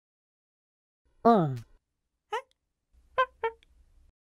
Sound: alien talk

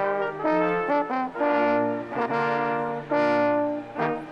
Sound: none

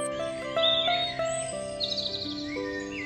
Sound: birds chirp and sing

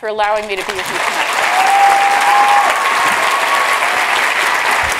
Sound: applause

